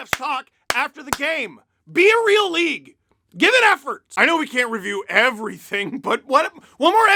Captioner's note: claps end